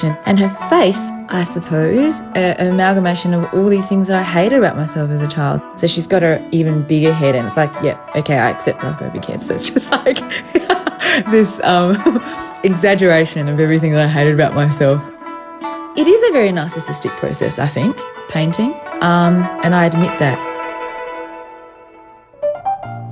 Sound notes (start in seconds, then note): 10.1 laughs